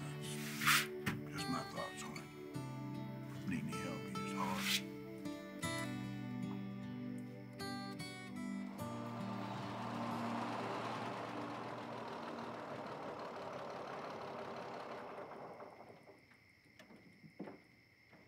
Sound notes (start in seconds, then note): 15.1 engine turns off